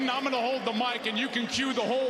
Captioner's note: cheers and applause